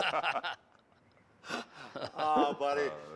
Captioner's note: laughter